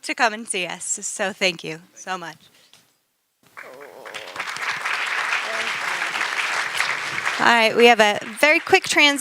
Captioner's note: applause